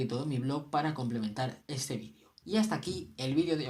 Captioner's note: in Spanish